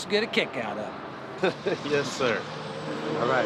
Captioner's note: chuckles